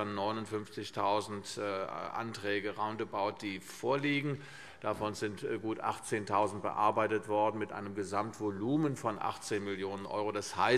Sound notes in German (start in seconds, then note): none